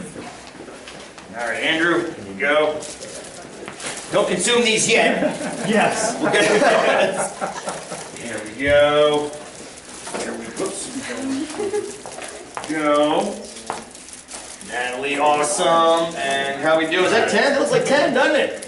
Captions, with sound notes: All right Andrew, here you go. Don't consume these yet. >> Yes [laughter]! >> Here you go. Here we, oops, go. Natalie, awesome, and how we doing? Is that 10? That looks like 10, doesn't it?